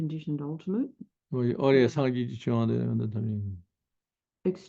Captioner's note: tibetan